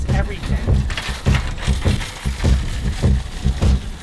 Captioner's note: cart rattling; funk beat